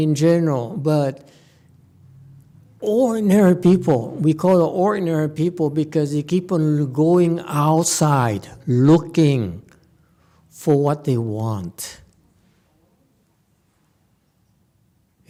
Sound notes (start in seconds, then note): none